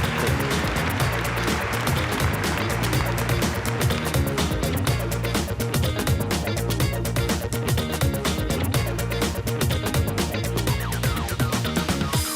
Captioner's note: applause